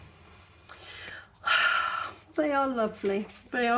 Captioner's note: sigh